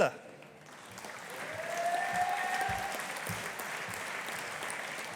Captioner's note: audience applauding